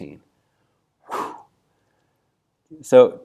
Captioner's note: sigh of relief